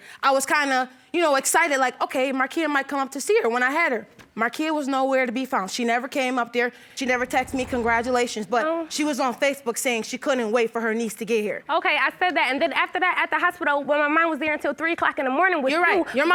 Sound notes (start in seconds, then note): none